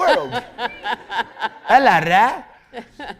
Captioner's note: laughter